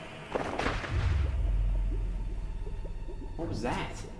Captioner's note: brain gurgling; eerie music